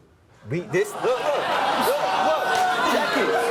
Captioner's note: crowd laughs